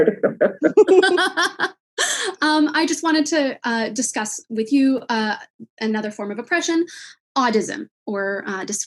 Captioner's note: laughing